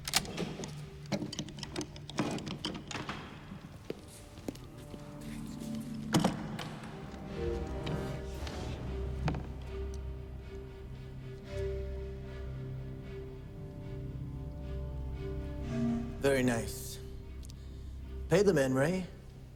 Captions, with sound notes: (box thudding) (box thuds) (suspenseful music) - Very nice. Pay the man, Ray.